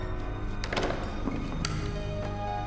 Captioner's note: door opening